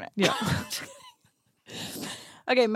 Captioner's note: laughs